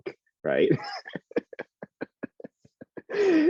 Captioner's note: laughing